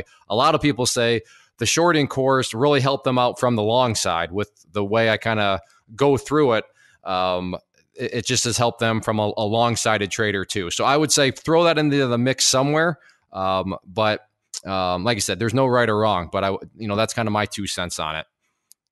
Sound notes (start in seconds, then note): none